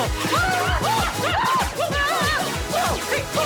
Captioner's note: all scream